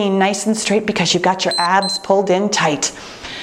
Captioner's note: timer beeps